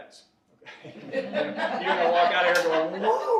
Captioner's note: audience laughing